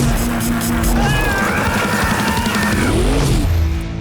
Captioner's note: screaming